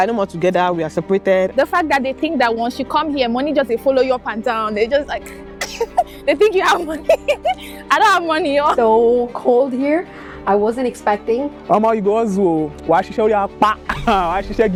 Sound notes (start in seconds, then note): 6.7 laughter